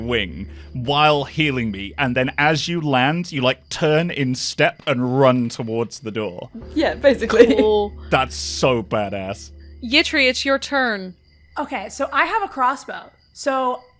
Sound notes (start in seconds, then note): 7.2 chuckles